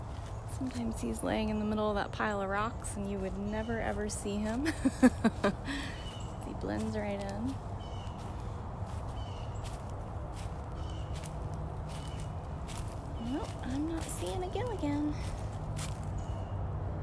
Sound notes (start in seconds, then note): 4.6 laughter